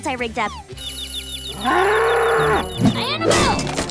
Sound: ringing and mooing

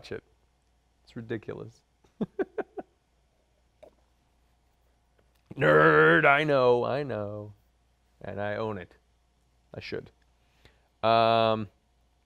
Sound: laughs

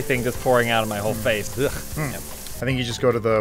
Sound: sound of disgust

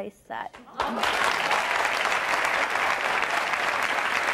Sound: audience applauding

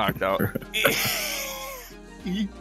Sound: wheeze laugh kind

